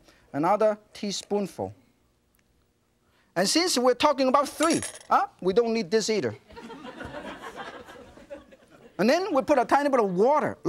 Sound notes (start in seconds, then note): 6.5 audience laughs